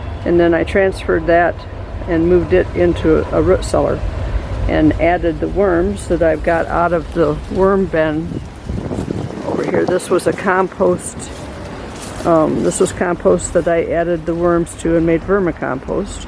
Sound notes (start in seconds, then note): 6.0 walking on leaves sounds